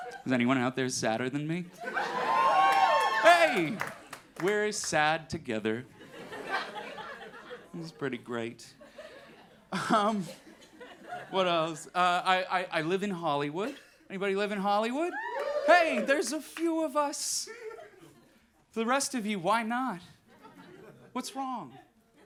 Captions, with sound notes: Is any out there sadder than me? (crowd cheering) Hey, we're sad together. It's pretty great. What else? I live in Hollywood. Anybody live in Hollywood? (crowd cheering) Hey there's a few of us. For the rest of you, why not? What's wrong?